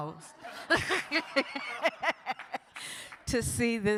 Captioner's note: audience laughs; laughs